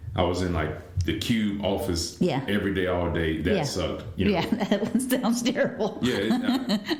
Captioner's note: laughter